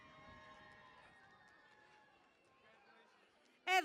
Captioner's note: cheering and Applause